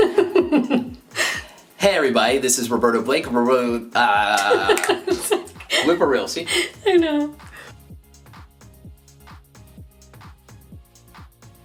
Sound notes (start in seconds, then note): 0.0 laughing; 3.5 laughing; 3.5 stammering; 8.0 upbeat electronic music